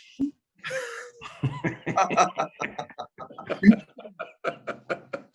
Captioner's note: panelists laughing